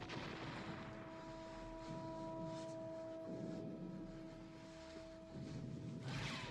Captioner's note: soldiers breathing heavily